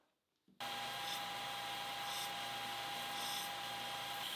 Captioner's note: tool humming